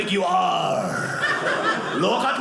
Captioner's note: audience laughing